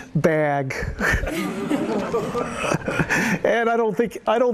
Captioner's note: laughter